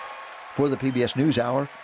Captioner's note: cheering